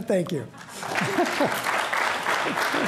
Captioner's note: applause